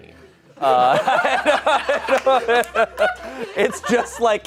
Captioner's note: audience laughing